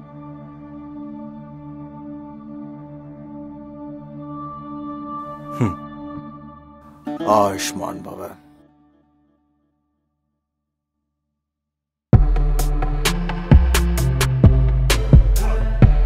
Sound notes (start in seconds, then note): 5.5 chuckles